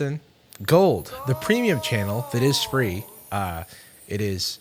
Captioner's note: disembodied voice